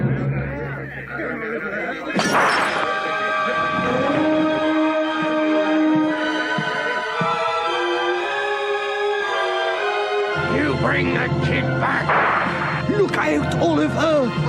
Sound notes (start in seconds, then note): 2.1 glass clinking; 2.1 gunshot bangs; 3.1 exciting orchestral music; 12.0 gunshot bangs